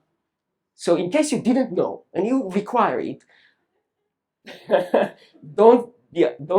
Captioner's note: laughs